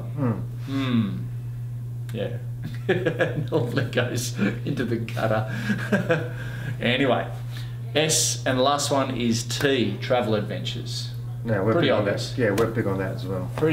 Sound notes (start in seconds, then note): 2.7 laughs; 5.5 laughs